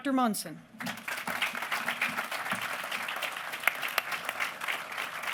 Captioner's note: applause